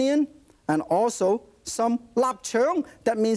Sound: foreign language

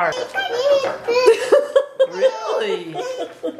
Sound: babbles

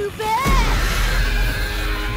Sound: screeching

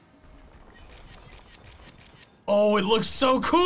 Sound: photo snapping

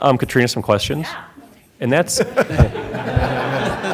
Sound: laughter

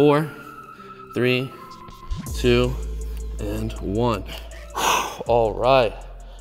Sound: exhales

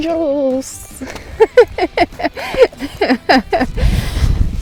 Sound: laughing

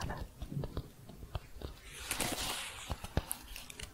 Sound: tapping and shuffling

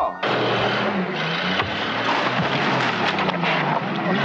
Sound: engine roaring; gears grind

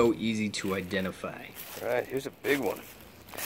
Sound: leaves crunching

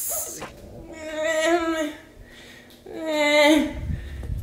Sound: sighs

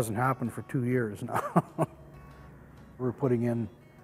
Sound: laughs

